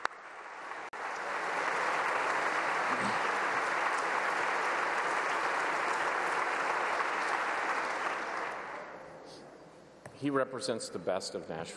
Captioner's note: applause